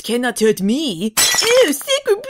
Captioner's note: bottle breaking noise